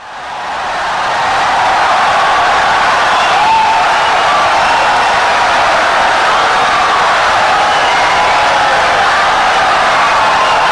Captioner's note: wild applause and cheering for 17 seconds